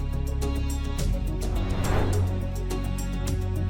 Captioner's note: suspenseful music continues; transition whooshing